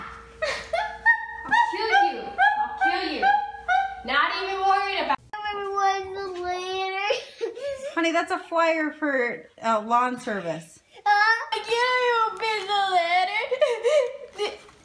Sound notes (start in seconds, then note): 0.4 background laughs; 5.4 crying, inaudible; 11.6 crying